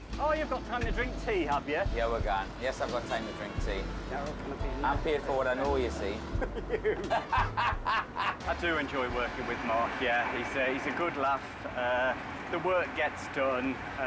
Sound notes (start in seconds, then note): 6.0 laughing